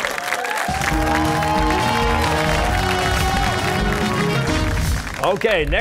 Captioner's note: cheers and applause